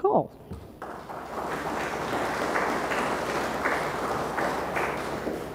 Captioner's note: audience applauds